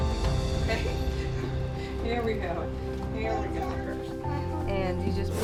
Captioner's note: laughs